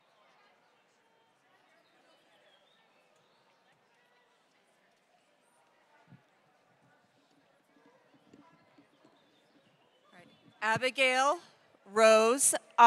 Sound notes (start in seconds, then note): none